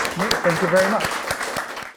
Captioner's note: audience applauding